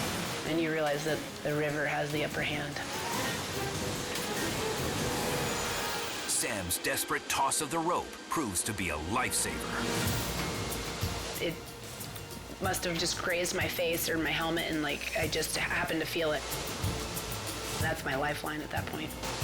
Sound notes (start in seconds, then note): 3.1 dramatic music; 3.1 waterfall rushing